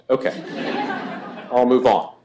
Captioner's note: laughter